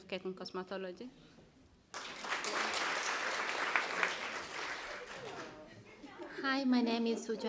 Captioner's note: applause